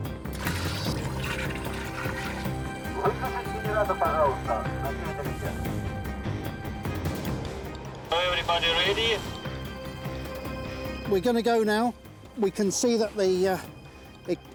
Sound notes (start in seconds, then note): 1.8 speaks Ukrainian